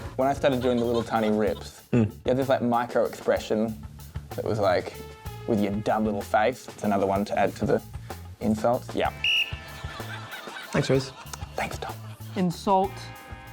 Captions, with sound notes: When I started doing the little tiny rips... Mm. ..you had this, like, microexpression that was like, "With your dumb little face." That's another one to add to the insults. Yeah. (BLOWS WHISTLE) Thanks, Rhys. Thank you, Tom. "Insult..."